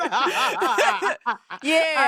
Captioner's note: laughing